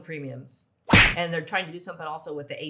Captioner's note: whip snapping